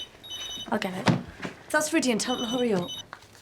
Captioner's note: phone rings